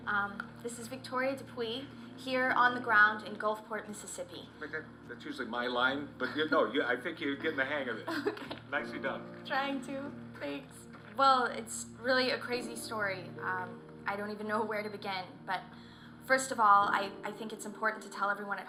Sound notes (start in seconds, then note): 7.2 laughs